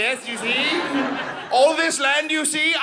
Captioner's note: audience laughing